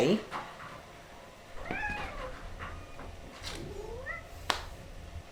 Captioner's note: cat Meowing